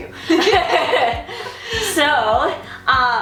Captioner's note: laughing